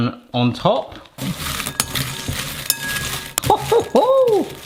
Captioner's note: bowl clinking